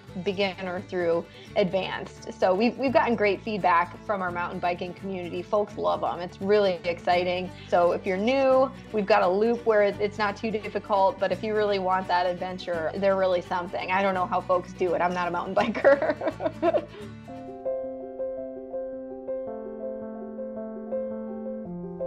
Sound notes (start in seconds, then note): 15.6 laughs; 17.2 soft piano music